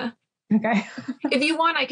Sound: laughs

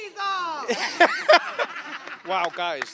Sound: laughter

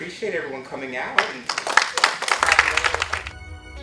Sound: applause

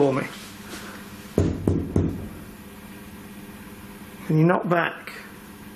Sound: knocks

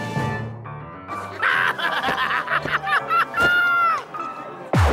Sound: laughing

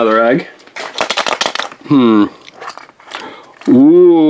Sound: egg rattles

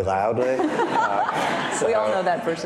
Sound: audience laughing

